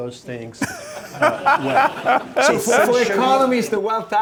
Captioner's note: laughing